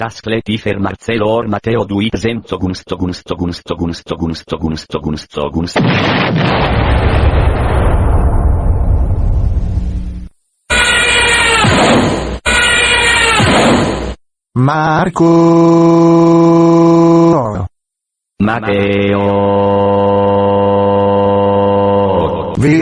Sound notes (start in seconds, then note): 5.7 explosion!; 10.6 zoom!; 10.8 crash!; 12.5 zoom!; 13.0 crash!